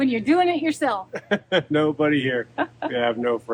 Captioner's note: laughs